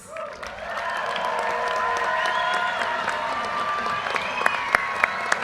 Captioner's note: audience cheers and applause